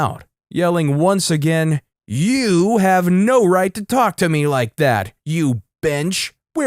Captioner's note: yelling, once again